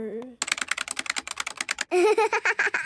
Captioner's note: keyboard clicking